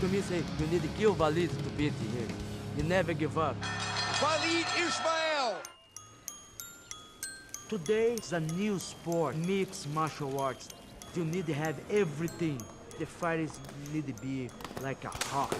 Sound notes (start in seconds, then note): 3.6 bell rings